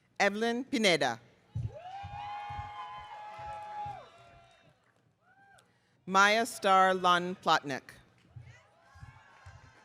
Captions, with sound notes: Evelyn Pineda. (audience cheering) Maya Star Lan Plotnick.